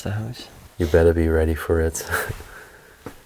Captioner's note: chuckles